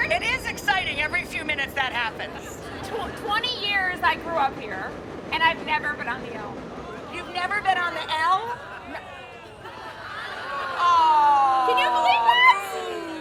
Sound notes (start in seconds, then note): 2.3 audience laughing; 8.5 crowd gasps